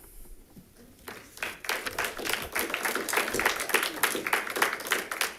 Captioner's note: audience clapping